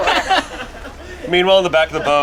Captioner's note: group laughs